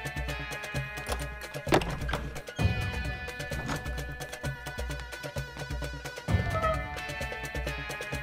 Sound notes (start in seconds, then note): 1.7 door opens